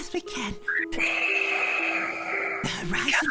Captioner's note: long sigh